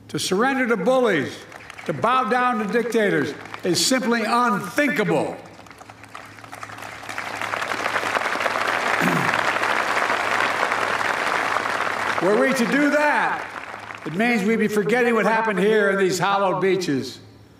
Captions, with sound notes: To surrender to bullies, to bow down to dictators is simply unthinkable. (Applause.) Were we to do that, it means we'd be forgetting what happened here on these hallowed beaches.